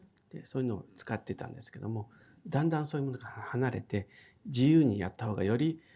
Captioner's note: speaking in foreign language